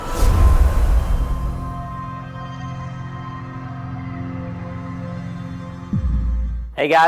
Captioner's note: sound effect